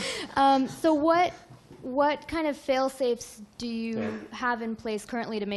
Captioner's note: laughs